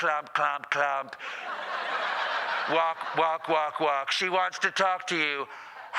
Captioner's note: laughter